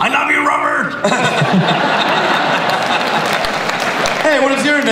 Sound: audience laughing

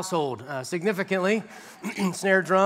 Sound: laughter

